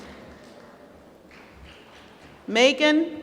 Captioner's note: applause